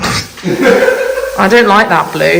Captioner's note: laughs